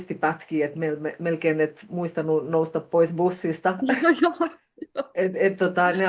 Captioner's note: naurua